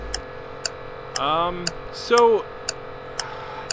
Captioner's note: clock ticking